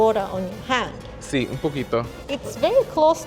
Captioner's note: speaking Spanish